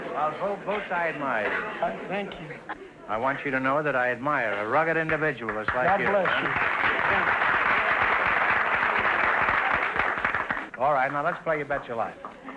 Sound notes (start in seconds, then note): 5.0 applause